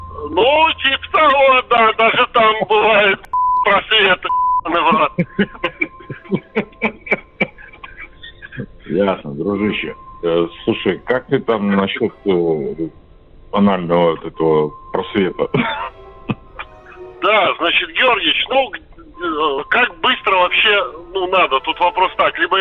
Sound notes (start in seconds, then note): 4.6 laughs; 15.4 laughs